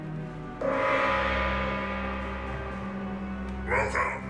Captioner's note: gong banging